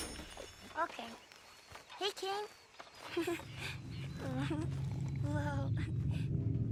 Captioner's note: pets the dog and laughs